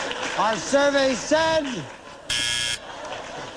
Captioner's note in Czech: bzučák